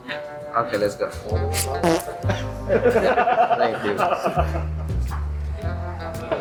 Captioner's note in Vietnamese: tiếng cười